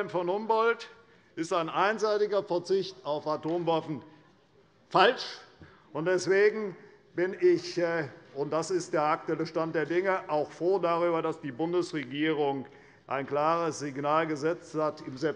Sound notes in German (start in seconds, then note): none